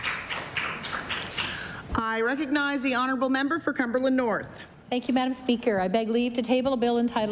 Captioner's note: applause